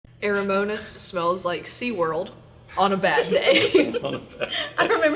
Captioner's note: laughter